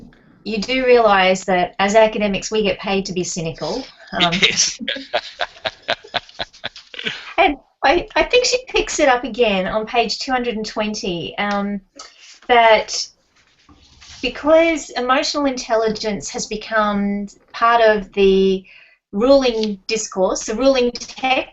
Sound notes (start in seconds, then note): 3.7 laughing